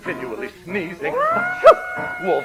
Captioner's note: singing; howls; sneezes